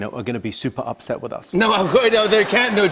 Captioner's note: laughter